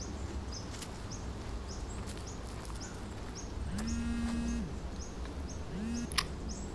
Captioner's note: phone buzzes